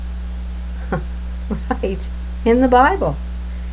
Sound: chuckles

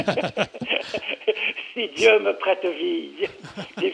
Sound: laughs

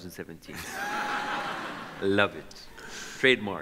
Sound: audience laughs

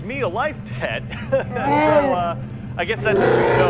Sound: wookie speak; wookie roar

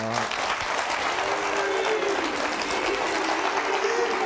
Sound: audience applauding

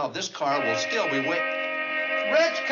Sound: horn honks

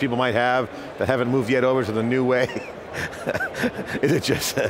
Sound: laughs

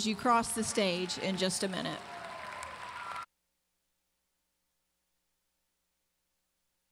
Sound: audience applauding

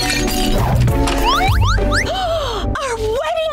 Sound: Rita gasping

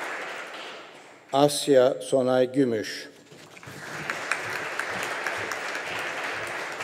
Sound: audience applauding

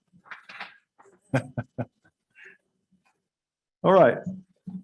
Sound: laughs

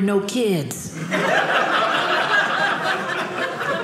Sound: audience laughing

